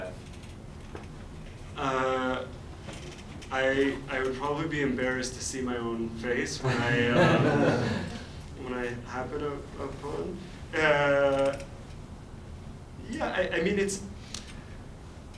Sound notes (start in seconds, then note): 9.1 laughter